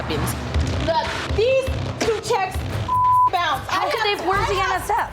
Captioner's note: beep